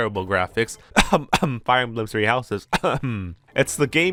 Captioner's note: cough cough